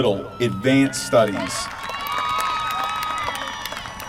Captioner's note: applause